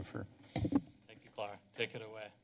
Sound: mic sounds

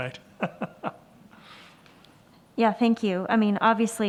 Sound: laughs

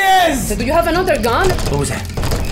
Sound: door shakes

